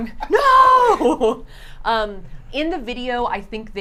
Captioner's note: laughs